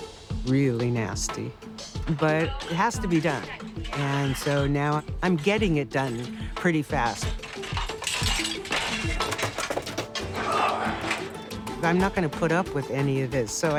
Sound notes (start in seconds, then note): 7.0 clattering; 10.2 man straining